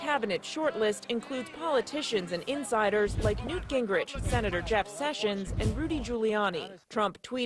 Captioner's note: chanting "drain the watch"